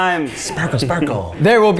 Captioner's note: giggles